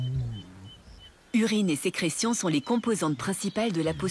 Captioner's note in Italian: cinguettii